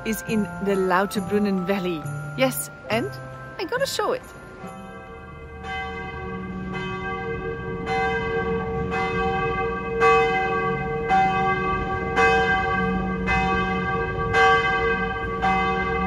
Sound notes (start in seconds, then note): 9.1 church bells